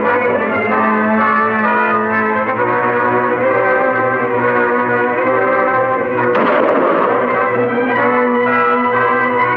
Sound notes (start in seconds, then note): 6.3 gun firing